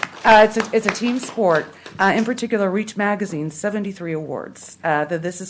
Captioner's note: applause